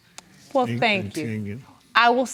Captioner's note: words stuttering